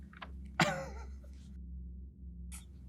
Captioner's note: giggles